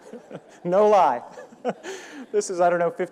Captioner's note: audience laughing; laughing